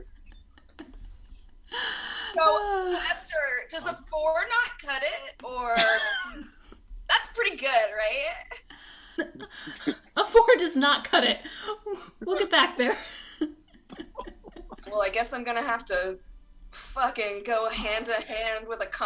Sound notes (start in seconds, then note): 2.3 laughs; 9.2 chuckling; 13.9 cast laughs